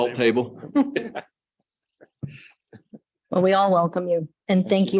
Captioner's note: light laughter